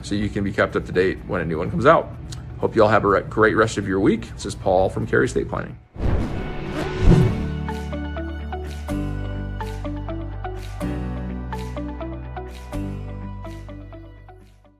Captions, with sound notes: so you can be kept up to date when a new one comes out. Hope you all have a great rest of your week. This is Paul from Cary Estate Planning. (air whooshing) (upbeat music)